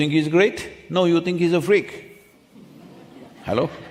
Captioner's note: few laugh